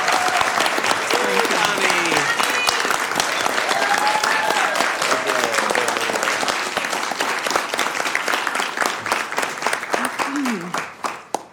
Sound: cheers and applause

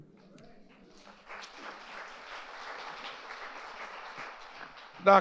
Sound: audience applauding

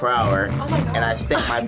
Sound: laughs

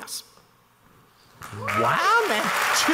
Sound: crowd clapping and cheering

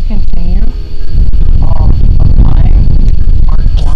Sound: obnoxious wind noises

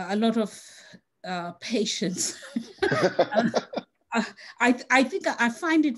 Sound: laughs

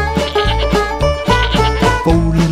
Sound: cow moos

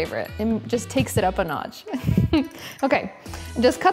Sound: laughs

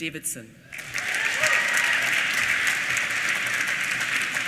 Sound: applause

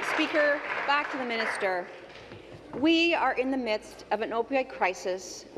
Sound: applause

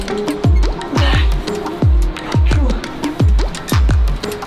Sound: pants

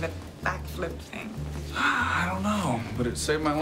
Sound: sighs

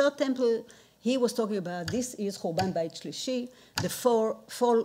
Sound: speaking in foreign language

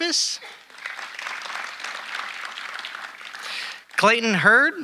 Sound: audience applauding

